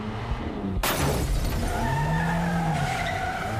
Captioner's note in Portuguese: pneus cantando